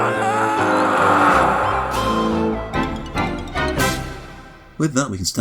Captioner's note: Pac-Man scream of despair